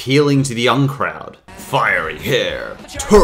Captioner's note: deepens voice